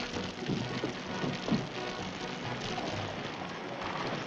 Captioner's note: fire crackling